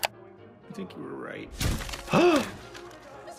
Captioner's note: video graphic clicks; upbeat music plays; gore splats; gasps